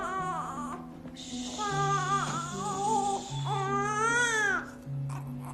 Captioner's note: baby crying